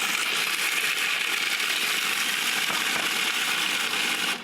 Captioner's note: food processor grinding